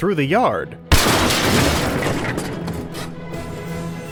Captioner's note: crash